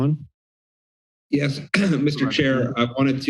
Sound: clears throat

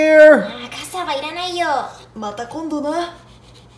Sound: market patrons speaking in Japanese

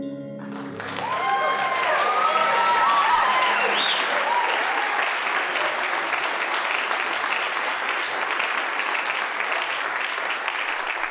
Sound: applause, cheering

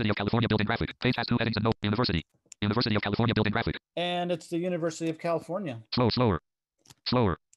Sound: screen reader reads fast

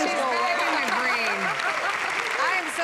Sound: laughs

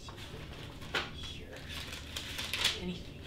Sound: BEN mumbles angrily

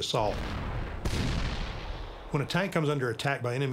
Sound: cannon shots exploding

